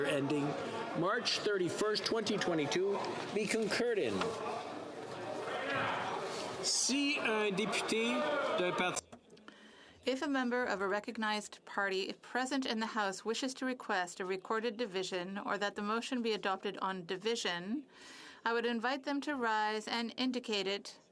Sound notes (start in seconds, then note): 10.7 speaking French